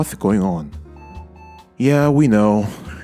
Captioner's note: POST beeps twice